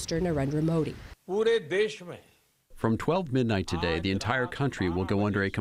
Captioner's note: through translator